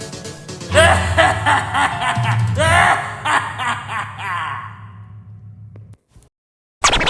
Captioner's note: victorious Laughter